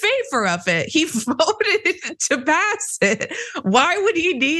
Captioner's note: laugh